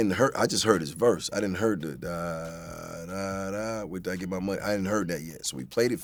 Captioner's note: vocalizes